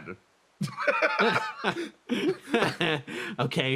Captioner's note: laughs